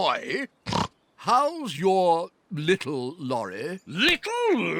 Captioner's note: snorts